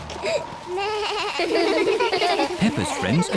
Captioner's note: suzy bleats; all laugh